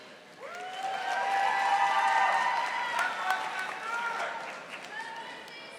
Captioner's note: audience applauding